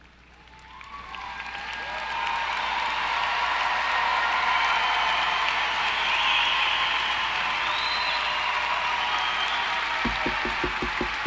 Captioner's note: applause & Cheering